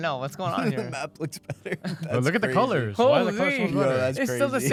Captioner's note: laughs